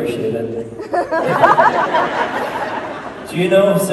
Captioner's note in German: Menge lacht